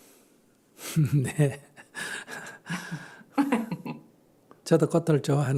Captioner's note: Sunim/Questioner Laughter